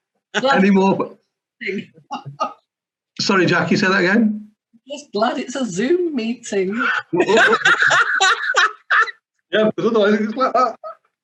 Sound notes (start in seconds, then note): 7.0 laughter